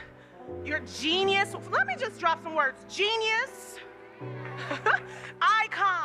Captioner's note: giggles